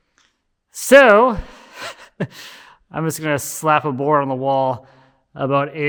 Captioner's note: chuckles